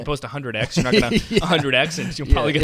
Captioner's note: laughs